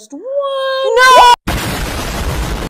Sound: explosion

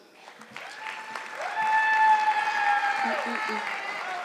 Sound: audience clapping

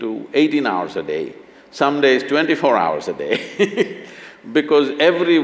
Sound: laughs

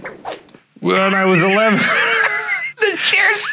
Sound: laughing

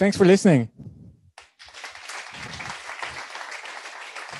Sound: clapping

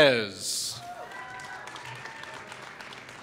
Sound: applause

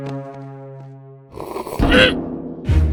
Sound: sip

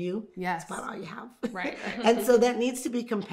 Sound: laughing

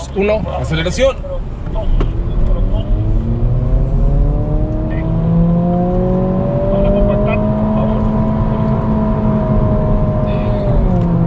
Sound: voice on radio; engine revving

